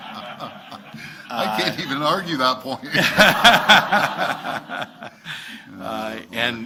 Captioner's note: laughter; laughs